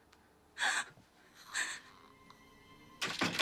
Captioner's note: Lyne gasping; ominous music; snarling